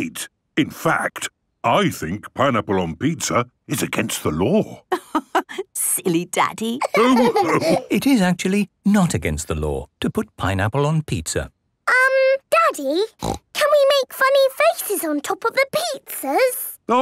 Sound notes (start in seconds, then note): 6.7 laughing